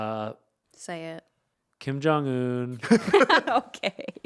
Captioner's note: laughing